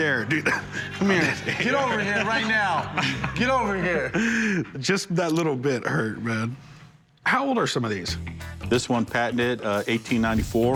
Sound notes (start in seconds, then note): 0.1 laughs